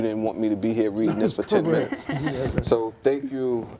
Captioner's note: laughs